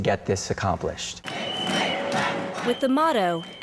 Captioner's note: protestor's chanting